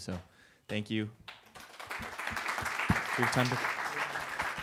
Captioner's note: applause